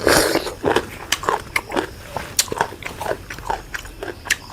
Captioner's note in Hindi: नाक से की जाने वाली आवाज़